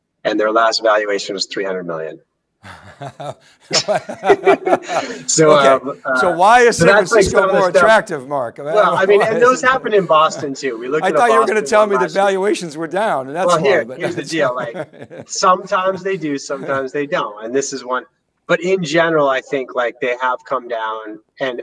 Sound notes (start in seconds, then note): 2.6 both chuckle